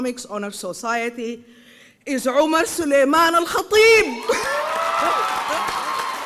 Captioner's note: applause and cheering